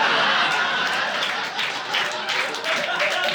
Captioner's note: laughter; applause